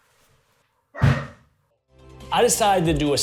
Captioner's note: slamming sound